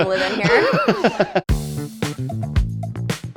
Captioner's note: laughing; upbeat music